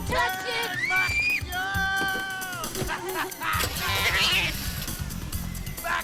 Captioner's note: overlapping chattering